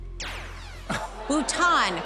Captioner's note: zap